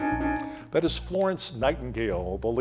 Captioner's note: timer beeping